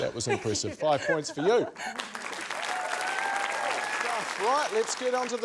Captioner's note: cheering, applause